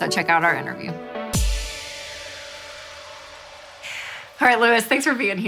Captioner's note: woosh